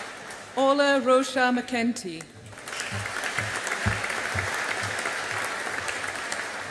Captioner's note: audience applauding